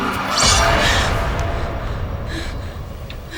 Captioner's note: gasps